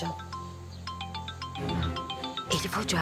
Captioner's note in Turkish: Telefon Çalıyor